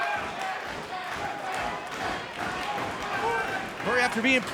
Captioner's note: crowd clamors